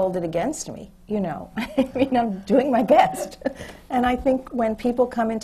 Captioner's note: laughs